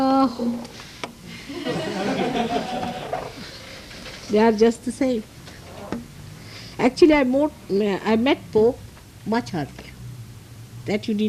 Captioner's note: laugh